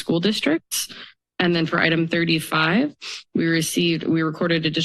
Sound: sniffs

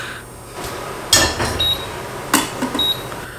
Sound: hob beeping

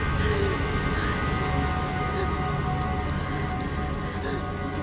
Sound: breathes heavily

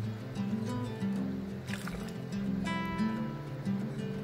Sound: water splashing

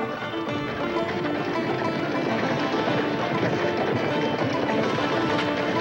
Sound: horse hooves clomping; upbeat acoustic music

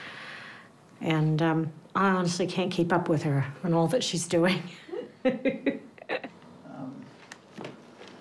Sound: laughs

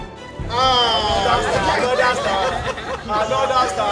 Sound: laughter

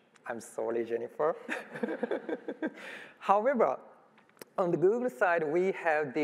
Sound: laughs

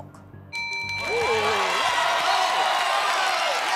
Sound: bell rings; cheers and applause

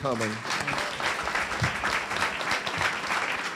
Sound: applause

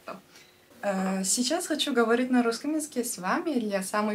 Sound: in russian

